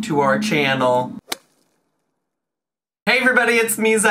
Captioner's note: logo thuds